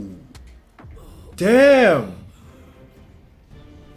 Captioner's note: wincing